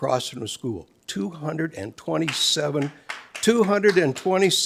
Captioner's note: audience member applauds